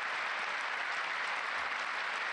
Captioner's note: applause